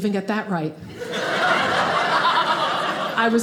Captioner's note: audience laughing